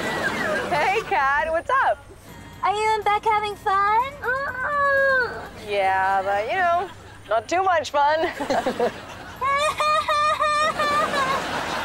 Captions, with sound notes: Hey, Cat. What's up? Are you Beck having fun? [groaning] Yeah, but, you know, not too much fun. [chuckles] [laughing]